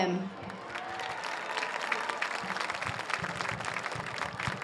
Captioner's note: audience cheers